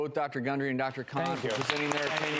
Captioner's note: audience applauds